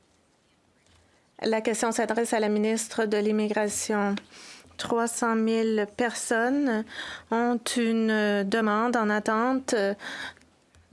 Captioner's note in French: voix de l'interprète